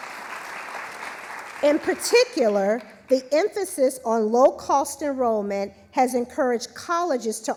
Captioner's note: applause